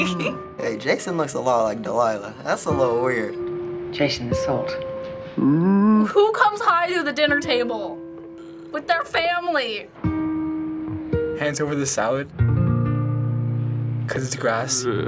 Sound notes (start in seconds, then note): 5.3 sloth grunts